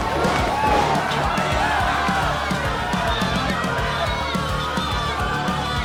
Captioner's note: crowd cheering and booing; crowd cheering; Loud slam as Alex hits the mat hard